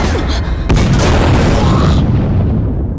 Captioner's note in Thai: ตูม